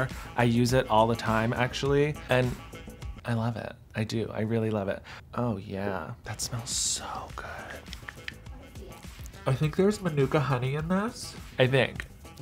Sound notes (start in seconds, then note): none